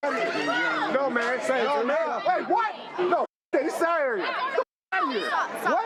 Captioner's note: angry indistinct talking